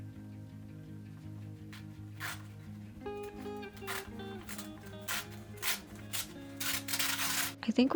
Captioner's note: more paper ripping